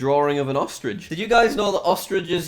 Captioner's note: distorted voice